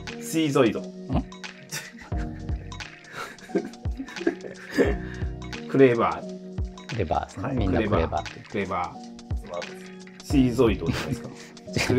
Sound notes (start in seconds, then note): 3.2 laughing